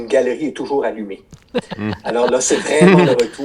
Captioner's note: laughter